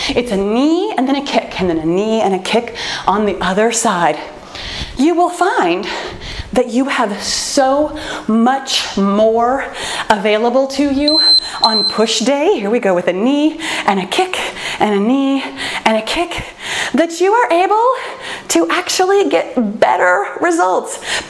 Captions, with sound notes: It's a knee and then a kick. And then a knee and a kick on the other side. You will find that you have so much more available to you (timer beeping) on push day. Here we go with the knee and a kick, and a knee and a kick. That you are able to actually get better results.